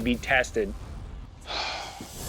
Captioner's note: sigh